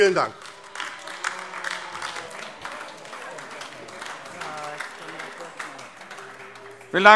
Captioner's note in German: Beifall AfD - Zurufe: Oh!